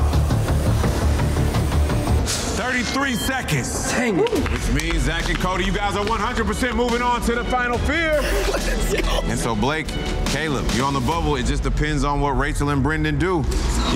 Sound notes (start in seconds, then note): 0.2 dramatic music; 2.6 digital beeping